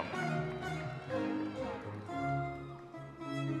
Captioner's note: audience members cheering